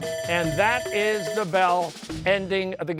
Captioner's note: bell ringing